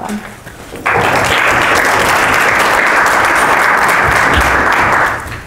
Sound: applause

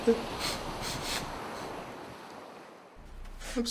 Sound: sniff sniff

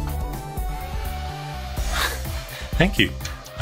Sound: mini fan blades whirring

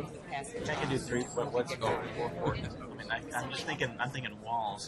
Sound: voiceover

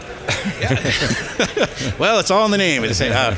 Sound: laughter

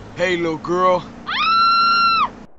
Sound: screaming

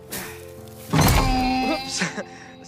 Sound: donkey squeals; chuckles nervously

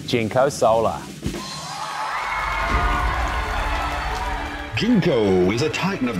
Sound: audience cheering and applauding

